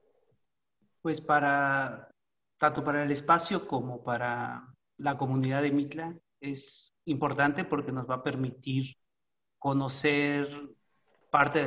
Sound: speaking Spanish

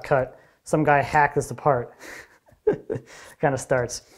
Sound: chuckles

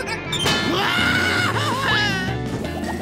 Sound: screaming

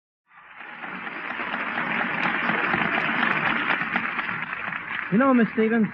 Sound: applause

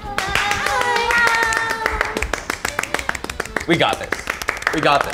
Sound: clapping

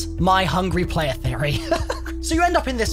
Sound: laughs

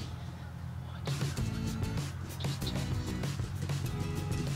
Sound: whispering

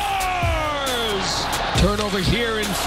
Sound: audience cheering

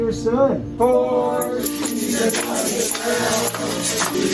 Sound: crowd

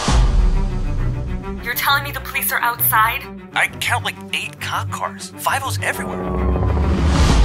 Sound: women over the phone

